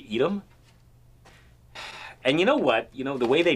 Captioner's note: sigh